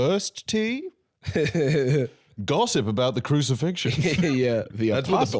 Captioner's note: laughs